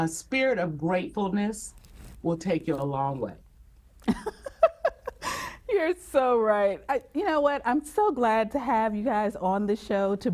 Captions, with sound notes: A spirit of gratefulness will take you a long way. - (laughs) You're so right. You know what, I'm so glad to have you guys on the show